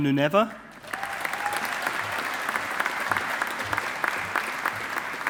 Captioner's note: audience applauding